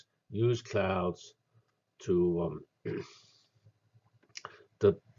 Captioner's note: cough